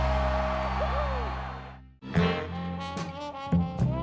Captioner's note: crowd cheering